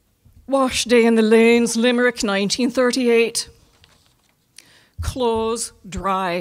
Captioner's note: in Irish accent